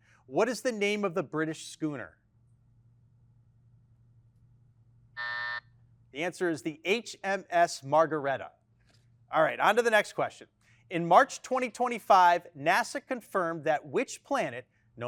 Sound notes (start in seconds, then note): 5.2 buzzer sounding